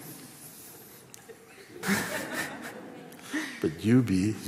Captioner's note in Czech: smích